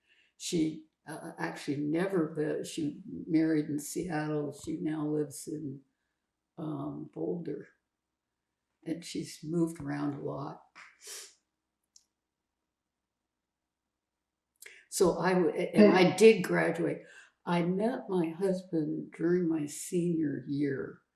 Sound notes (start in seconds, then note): 11.0 sniffling